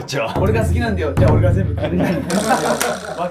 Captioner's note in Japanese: 一同・スタッフ：笑い